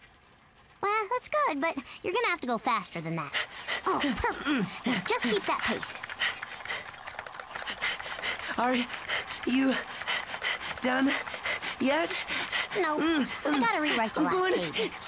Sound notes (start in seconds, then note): 6.3 panting; 9.0 breathes heavily